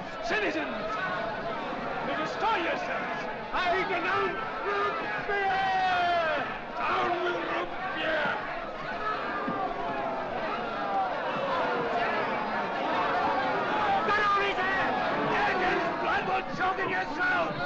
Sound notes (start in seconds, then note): 8.5 crowd clamoring angrily